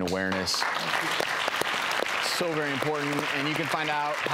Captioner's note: applause